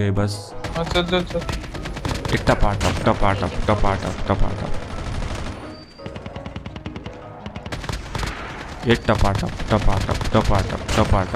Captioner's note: Firing shots